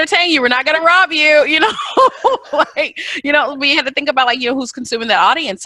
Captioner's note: laughs